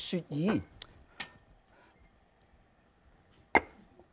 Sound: lid clinks softly; lid clinks

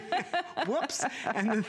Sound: laughter

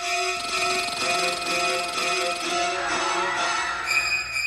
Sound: intense dramatic music; squirrel chittering; people screaming; intense dramatic music

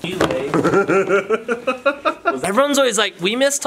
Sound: laughing

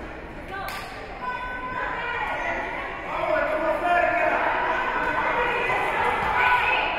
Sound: spectators shouting encouragements

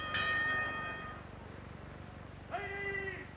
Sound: bell rings

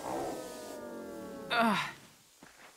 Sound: groaning

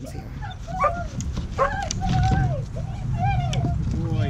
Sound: dogs barking

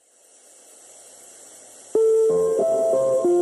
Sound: shower

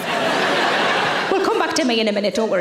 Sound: audience laughing

